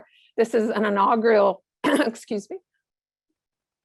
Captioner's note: cough